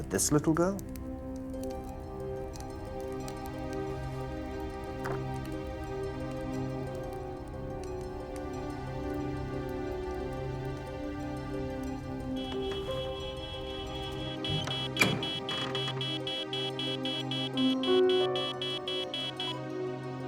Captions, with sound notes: - Was it this little girl? (eerie orchestral music) (beeping)